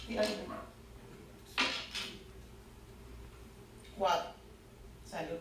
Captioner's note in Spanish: Sonido al tirar el dado